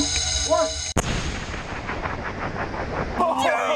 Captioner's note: explosion; group shouting